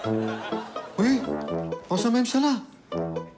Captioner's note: scattered laughter; speaking in hebrew